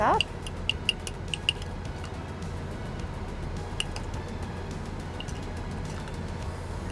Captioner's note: soft music; spoon tapping